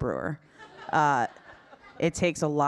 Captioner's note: audience laughing